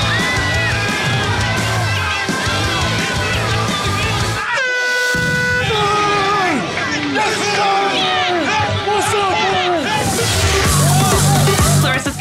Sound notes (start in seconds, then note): 0.0 rock music; 2.0 contestants yelling; 4.4 air horn blows; 5.9 contestants cheering; 9.8 upbeat music